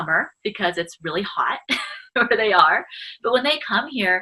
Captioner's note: laughs